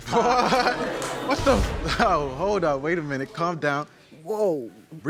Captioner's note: audience gasps